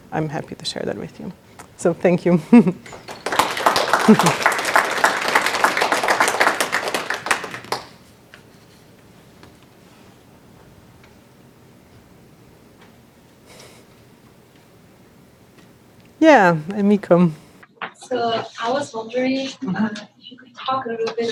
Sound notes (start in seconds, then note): 2.9 applause